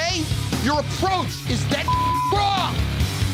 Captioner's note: beep